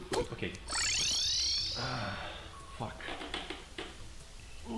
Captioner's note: sigh